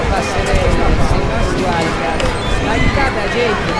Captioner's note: bird calls